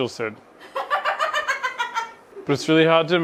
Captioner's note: laughing